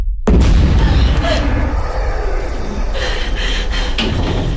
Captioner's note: tense music; Kat gasps; Kat breathing heavily; something banging on door